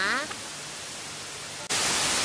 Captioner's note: TV Statics More